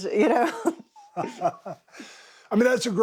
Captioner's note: laughing